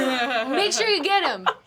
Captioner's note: everyone laughing